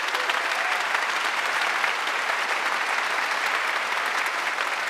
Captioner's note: audience applauding